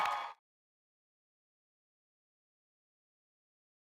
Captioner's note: cheering